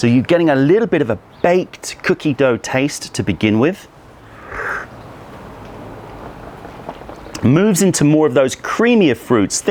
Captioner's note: sips tea